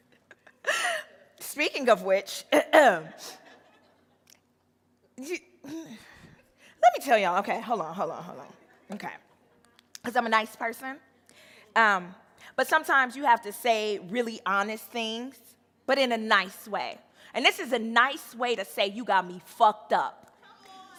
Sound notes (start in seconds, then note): 0.1 laughing; 2.8 clears throat